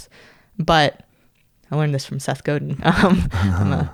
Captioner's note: laughs